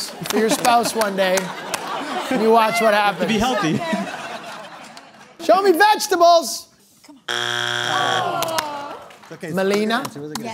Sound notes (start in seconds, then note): 7.2 buzzer sounds